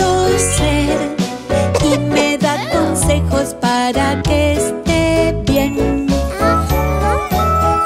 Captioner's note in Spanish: Sonido de tos; Música alegre